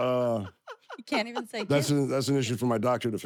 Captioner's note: laugh